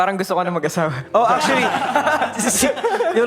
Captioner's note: laughing